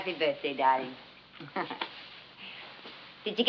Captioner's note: chuckles